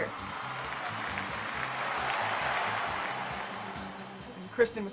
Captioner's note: SOUND: *Crowd cheering